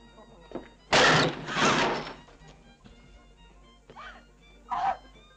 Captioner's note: woman gasps; door thuds